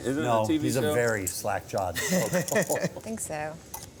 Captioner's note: laughing